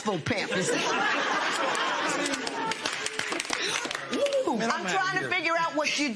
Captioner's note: laughter